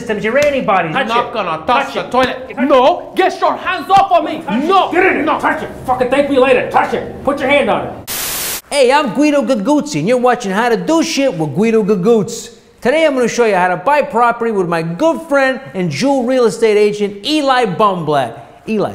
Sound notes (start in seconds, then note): 8.0 static hisses